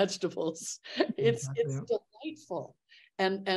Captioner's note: laughs